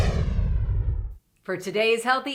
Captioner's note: logo whooshing